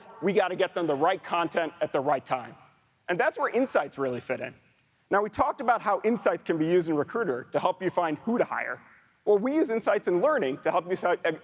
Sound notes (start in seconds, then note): none